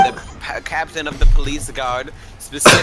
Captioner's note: coughing